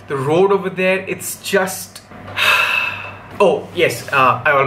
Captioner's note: sigh